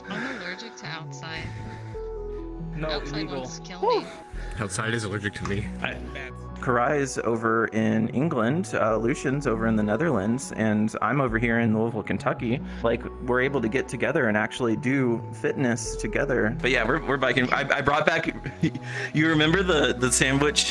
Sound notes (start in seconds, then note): 4.1 heavy breathing